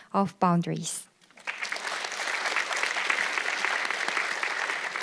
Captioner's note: audience clapping